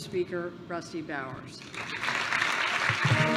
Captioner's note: applause